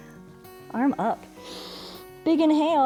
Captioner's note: inhales